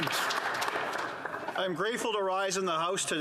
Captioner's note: applause